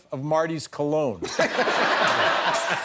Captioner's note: laughter